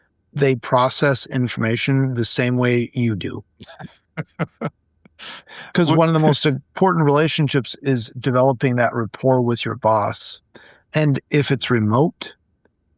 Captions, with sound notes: they process information the same way you do. (laughing) Because one of the most important relationships is developing that rapport with your boss. And if it's remote,